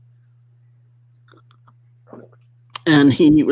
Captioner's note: sips loudly